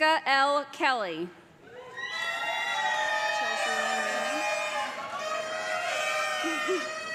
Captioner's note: horns blowing; loud cheering